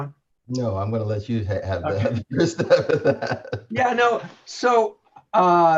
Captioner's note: laughs